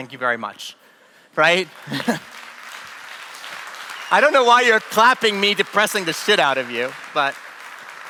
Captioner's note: applause